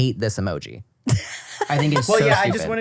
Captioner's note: laughs